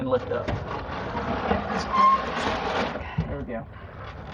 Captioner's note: scraping